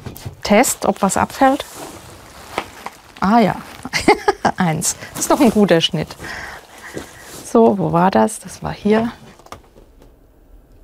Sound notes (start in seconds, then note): 3.8 she laughs